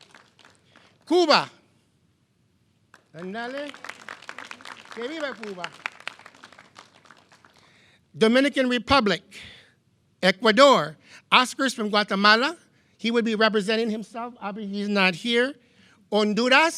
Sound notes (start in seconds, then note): 3.5 speaking in foreign language; 5.2 clapping